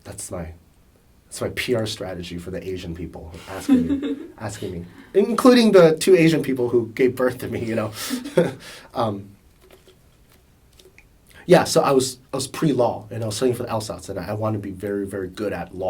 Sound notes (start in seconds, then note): 3.4 laughs; 7.6 laughs